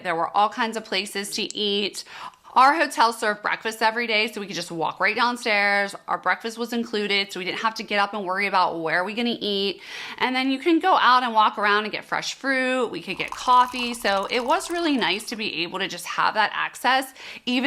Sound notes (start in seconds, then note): 13.1 water drizzling